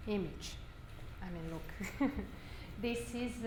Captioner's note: chuckles